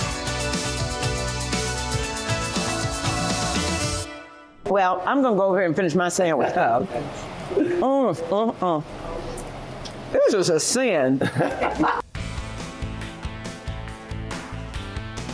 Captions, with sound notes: Well, I'm going to go over here and finish my sandwich. [laughing] - Oh, okay. - Mmm-mm-mm. This is a sin. [laughter]